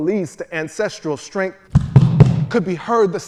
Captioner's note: feet stomping